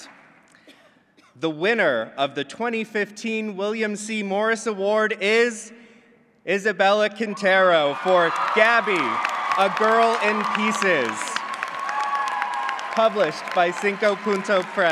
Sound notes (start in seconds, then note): 11.6 applause